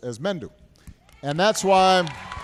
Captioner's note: applause